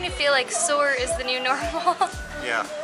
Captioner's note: laughter